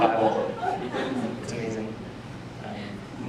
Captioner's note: laughter